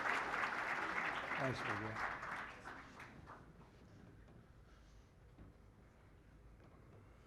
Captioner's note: applause